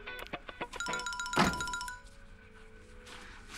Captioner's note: Door closes